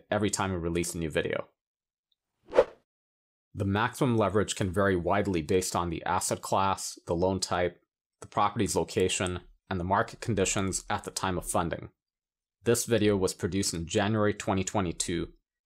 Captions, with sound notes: every time we release a new video. (air whooshing) The maximum leverage can vary widely, based on the asset class, the loan type, the properties location and the market conditions at the time of funding. This video was produced in January, 2022